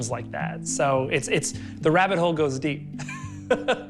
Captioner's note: laughs